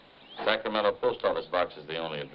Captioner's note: none